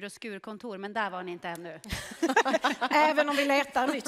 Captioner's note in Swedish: skratt